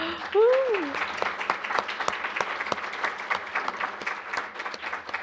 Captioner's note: applause